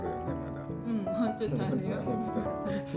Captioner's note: laughs